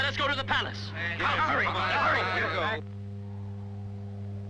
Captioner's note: men shouting